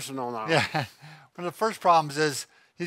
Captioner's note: laughing